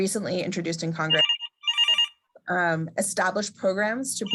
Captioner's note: phone rings